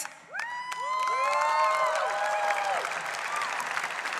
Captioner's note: audience cheering